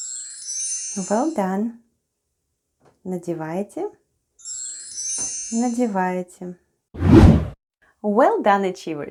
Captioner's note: chime sound